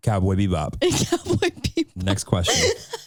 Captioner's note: chuckling